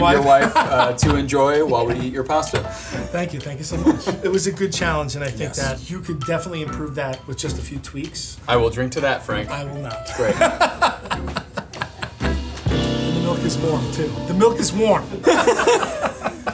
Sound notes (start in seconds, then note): 10.0 laughing; 15.2 both laughing